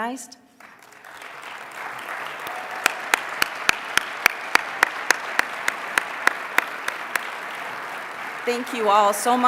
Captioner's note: applause